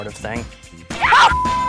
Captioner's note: screams; shouts